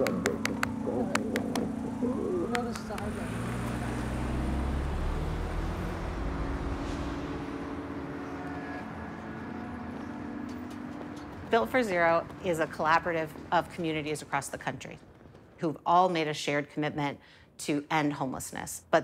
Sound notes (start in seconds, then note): 3.1 car engines rumbling; 3.1 melancholy music